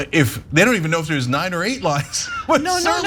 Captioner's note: laugh